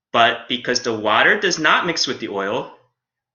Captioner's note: none